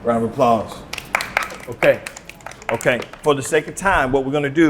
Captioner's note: applause